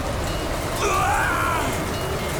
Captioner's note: screaming